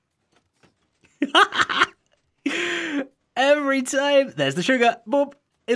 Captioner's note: laughing